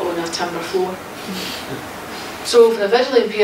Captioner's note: laughs